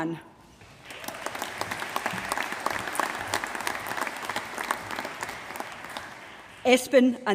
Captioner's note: applause